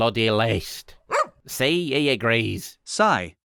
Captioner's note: woof